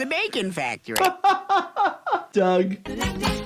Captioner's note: laughs